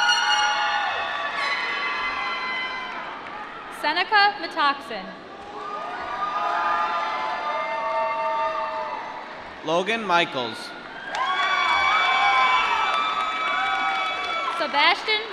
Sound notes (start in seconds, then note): 0.1 applause; 6.0 applause; 10.9 applause